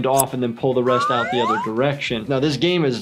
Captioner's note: scissor snips; slide whistle